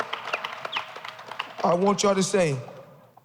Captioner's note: cheers and applause